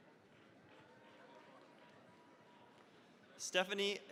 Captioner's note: cheering, applause